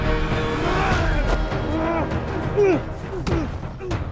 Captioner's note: both moaning